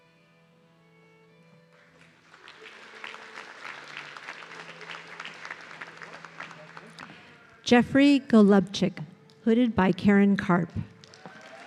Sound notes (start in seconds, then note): 1.7 audience clapping